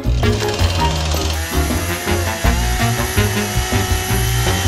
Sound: chainsaw engine revs

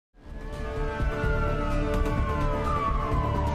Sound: sirens; dramatic music

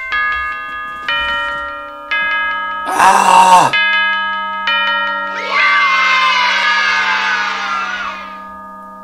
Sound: bells chiming and kids yelling "YAY!"

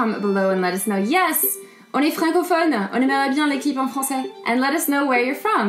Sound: speaks French

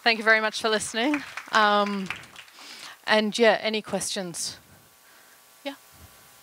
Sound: applause

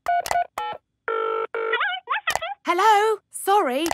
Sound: dials phone; on phone

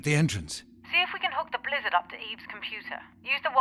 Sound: radio

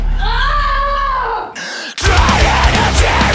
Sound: black haired boy yelling

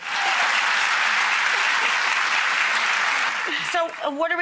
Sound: audience claps

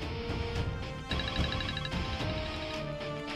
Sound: phone ringing

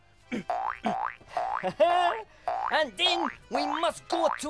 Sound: chuckles; spring bouncing

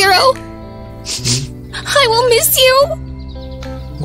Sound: sniffles

